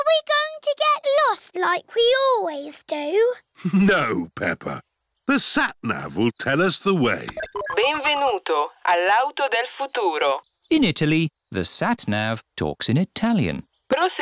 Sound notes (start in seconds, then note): 3.6 chuckles; 7.3 beeps; 10.0 speaks italian